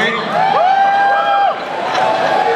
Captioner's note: audience cheering